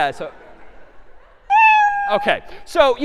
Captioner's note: meow